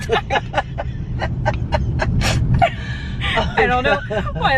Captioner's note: laughing; both laughing